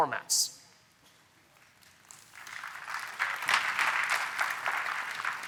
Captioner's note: applause